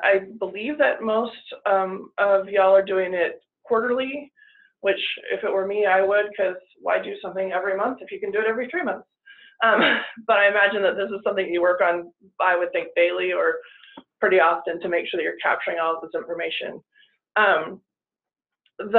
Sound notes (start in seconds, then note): 9.8 chuckles